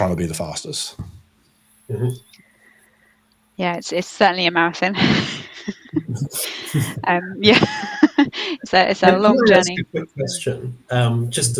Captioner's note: laughing